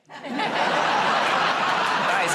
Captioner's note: laughter